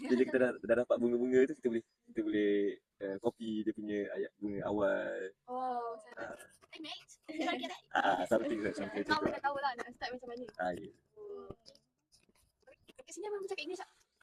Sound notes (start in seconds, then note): 6.4 speaking English in Australian Accent